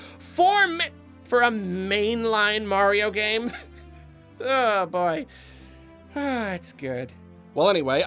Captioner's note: laughs